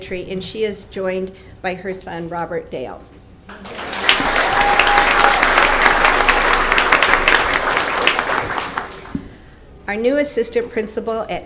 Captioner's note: applause